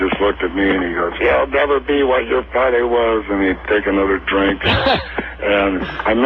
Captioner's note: imitating Graham